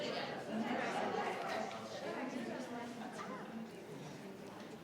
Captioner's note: people chattering